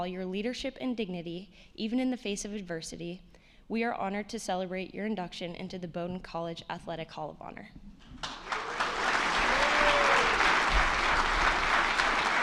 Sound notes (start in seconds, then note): 8.1 attendees clapping